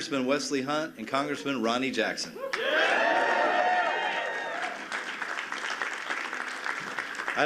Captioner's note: cheers and applause